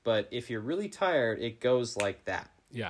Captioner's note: snapping